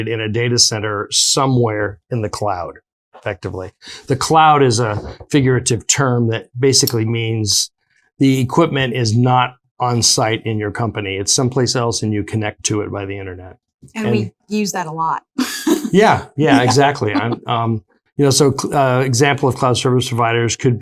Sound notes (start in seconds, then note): 15.4 laughs